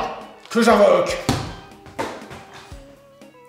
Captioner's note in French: bruit de chute rebondissante